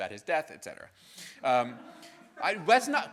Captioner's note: audience laughing